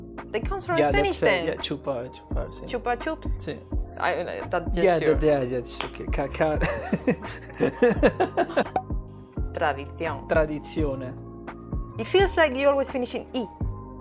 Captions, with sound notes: They come from Spain then! Chupa Chups (nervous talking) Cut! [Laughter] Tradizione - Tradicion It feels like like yours always finish in “E”